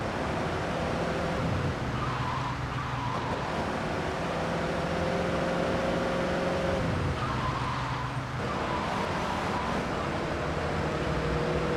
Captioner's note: siren wailing